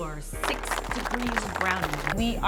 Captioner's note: applause